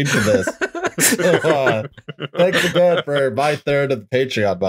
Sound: laughter

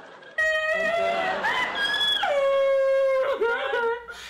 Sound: sobs

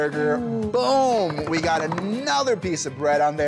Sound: hands patter

